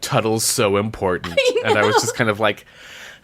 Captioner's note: laughs